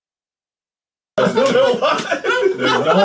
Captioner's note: makes exaggerated mouth movements to still more silence; sound cuts back in to laughing